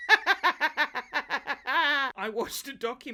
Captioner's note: laughs